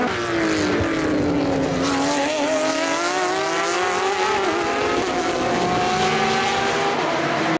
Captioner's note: engines